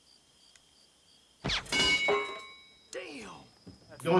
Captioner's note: crickets chirping; rifle shot; bullet ricochets